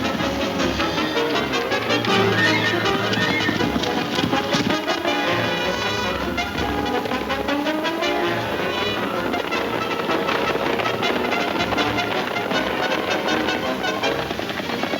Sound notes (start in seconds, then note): 0.2 exciting chase music; 6.5 hooves thundering